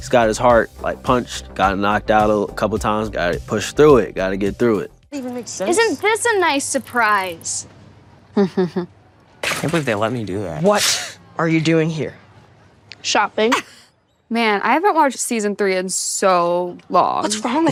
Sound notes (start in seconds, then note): 8.3 Sadie laughs; 10.7 laughs; 13.5 Millie laughs